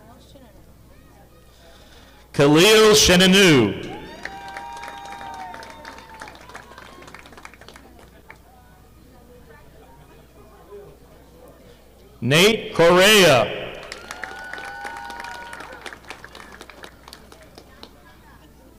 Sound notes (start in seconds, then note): 3.9 audience applauding; 13.6 audience applauding